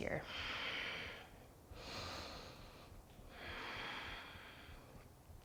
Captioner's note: deep breathing